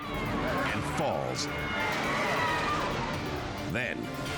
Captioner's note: onlookers scream